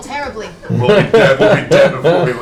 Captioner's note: laughs